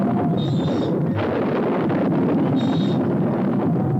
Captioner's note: thunder rumbles; cart wheels creaking